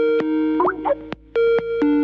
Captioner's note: ringtone